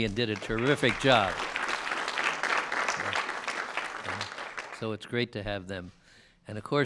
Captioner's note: applause